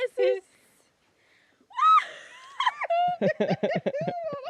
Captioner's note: women speaking in foreign language; laughing